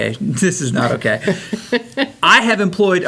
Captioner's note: laughs